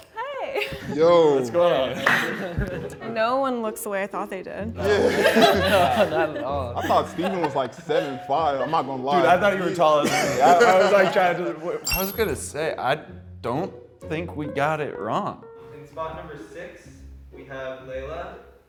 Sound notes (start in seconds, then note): 2.7 laughing; 4.8 contestants laughing; 10.3 laughs